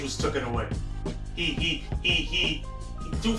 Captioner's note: stutters